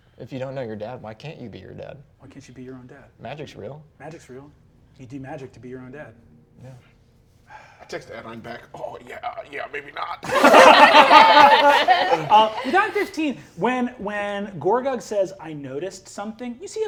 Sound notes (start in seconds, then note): 10.2 all laughing